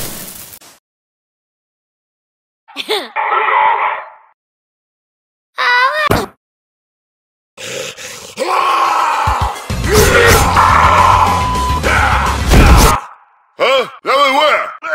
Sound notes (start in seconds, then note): 8.3 angry chihuahua man screams; 8.3 angry forest man screams